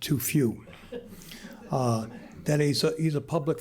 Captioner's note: laughter